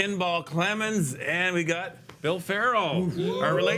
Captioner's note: men screaming